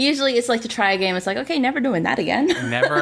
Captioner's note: laughs